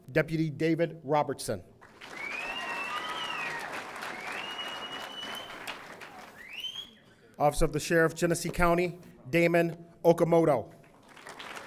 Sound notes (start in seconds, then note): 1.8 audience applauding; 2.3 audience member whistling; 11.0 audience applauding